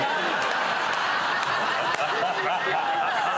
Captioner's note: laughter